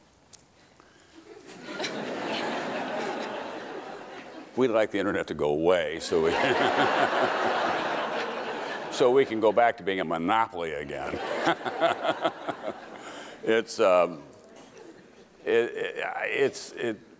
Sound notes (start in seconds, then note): 1.3 crowd laughing; 6.0 crowd laughing; 11.0 crowd laughing; 11.1 laughing